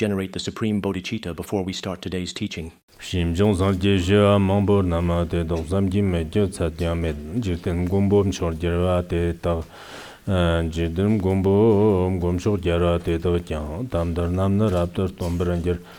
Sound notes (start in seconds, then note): 2.9 giving oral transmission in Tibetan